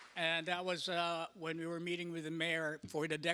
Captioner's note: applause